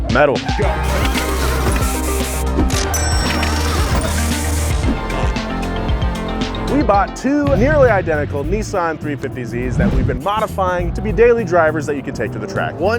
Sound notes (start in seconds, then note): 0.6 engine revving; 1.0 upbeat music